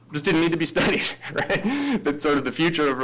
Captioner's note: laughs